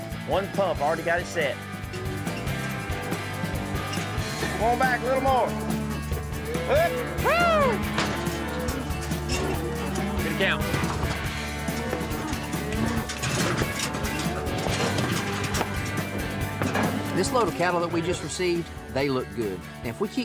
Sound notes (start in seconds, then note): 7.7 mooing; 11.7 gates clanking, cows mooing; 14.5 hoof beats